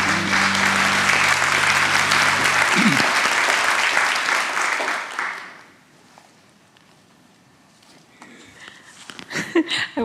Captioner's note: applause